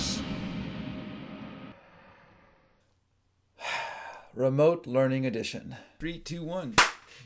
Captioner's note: breathes; claps